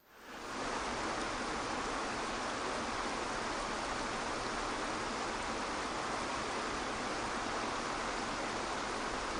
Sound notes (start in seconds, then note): 0.9 water rushing